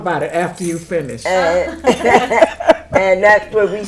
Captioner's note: everyone laughing